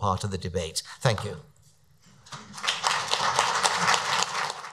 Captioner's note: audience applauds